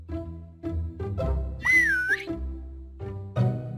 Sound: whistles

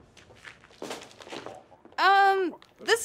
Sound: muffled noise from bag

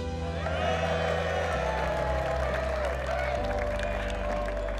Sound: cheering

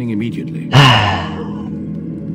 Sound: sigh

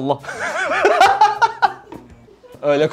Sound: laughter

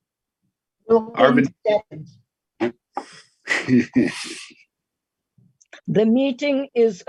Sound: laughs

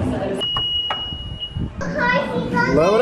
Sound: car beeps

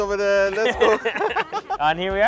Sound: laughs

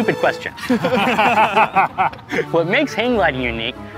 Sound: laughing

